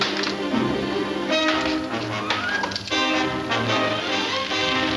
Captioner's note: fire crackling